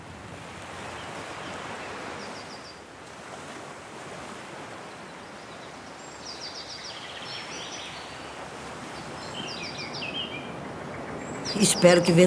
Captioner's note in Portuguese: barulho do mar; chilrear de pássaro